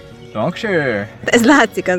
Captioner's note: low german accent